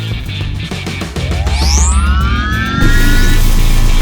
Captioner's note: machine whirring; electricity crackling